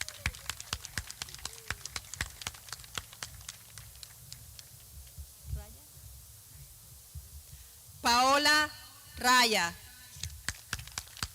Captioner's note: clapping